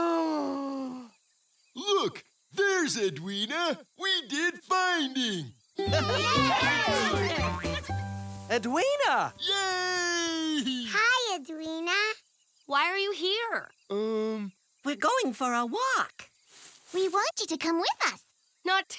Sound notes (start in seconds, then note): 5.8 cheering and laughing